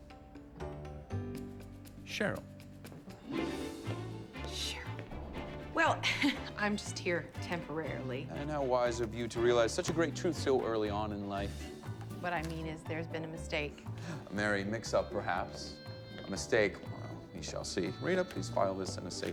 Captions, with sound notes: "SHERYL." SHERYL? WELL... [CHUCKLES] I'M JUST HERE TEMPORARILY-- AND HOW WISE OF YOU TO REALIZE SUCH A GREAT TRUTH SO EARLY ON IN LIFE. WHAT I MEAN IS, THERE'S BEEN A MISTAKE. A MERRY MIX-UP, PERHAPS. A MISTAKE? WELL, WE SHALL SEE. RITA, PLEASE FILE THIS IN A SAFE PLACE.